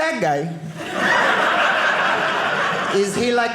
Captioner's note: audience laughing